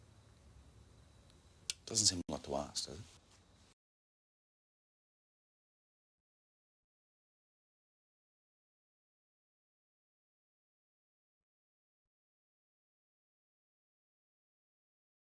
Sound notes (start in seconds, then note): none